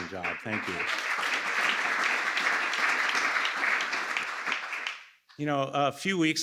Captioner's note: applause